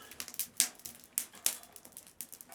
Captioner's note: crackling